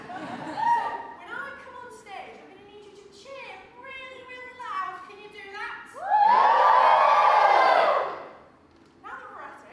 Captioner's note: audience cheers